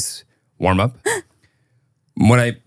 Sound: gasping

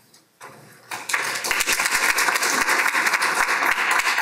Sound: applause

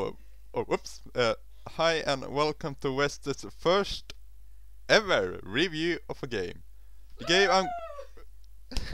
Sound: cheers in the Background

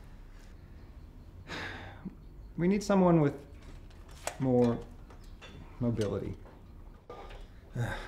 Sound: sighs

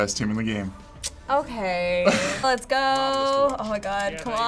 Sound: tsking

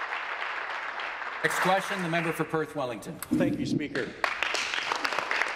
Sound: applause

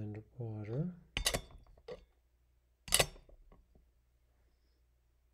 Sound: glass clinking

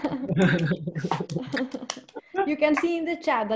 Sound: laughter

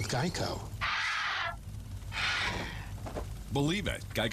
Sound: pterodactyl screech

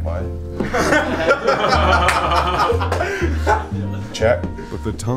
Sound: group laughter and clapping

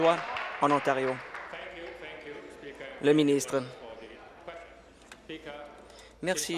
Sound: applause

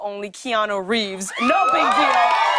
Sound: cheers and applause

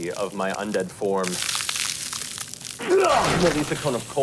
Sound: crackling; shouting

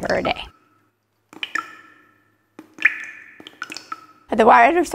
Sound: water dripping

